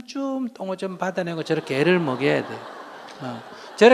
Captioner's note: audience Laughter